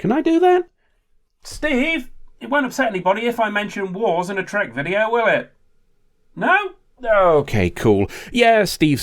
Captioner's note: slightly muffled